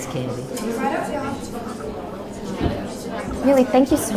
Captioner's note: people chattering